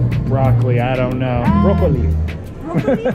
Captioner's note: speaking foreign language; laughs